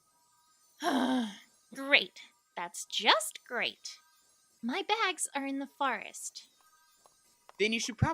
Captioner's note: annoyed groan